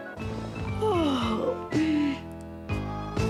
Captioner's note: yawns